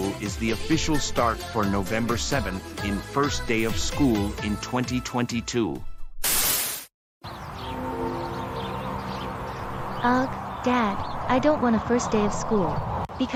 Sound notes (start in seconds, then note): 6.3 static Noise; 7.2 freeway Roaring Noise